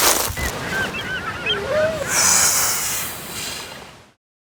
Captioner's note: seagulls crying